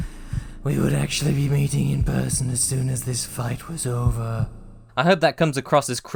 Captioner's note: breathily